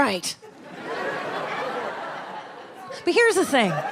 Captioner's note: audience laughs